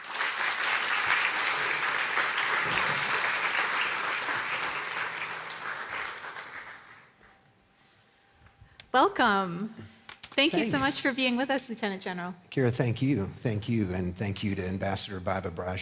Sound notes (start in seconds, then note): 6.3 applause